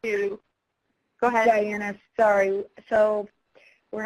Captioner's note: voiceover